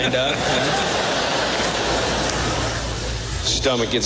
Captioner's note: laughter